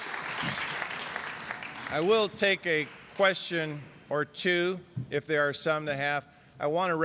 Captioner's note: applause